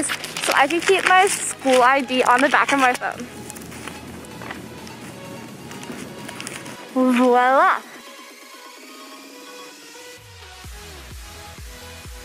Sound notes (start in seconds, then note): 3.2 peeling; 4.3 finger tapps